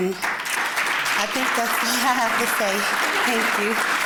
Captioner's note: applause